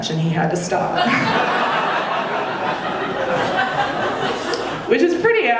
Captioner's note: audience laughing